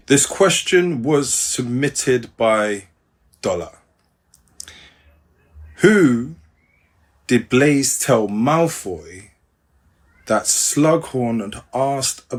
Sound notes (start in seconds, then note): none